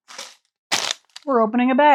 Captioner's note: crack